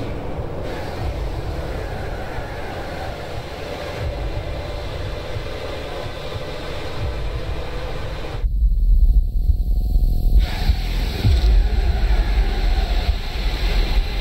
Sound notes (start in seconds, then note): 0.0 loud, sustained sweeping noise; 10.1 loud, sustained sweeping noise